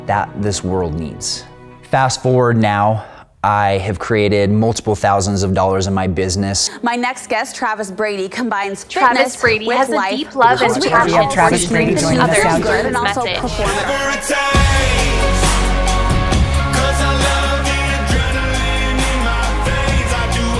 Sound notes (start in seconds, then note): 9.0 many voices speaking; 13.2 upbeat music